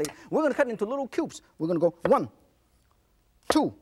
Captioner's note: none